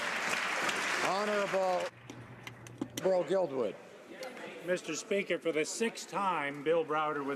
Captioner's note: some Applause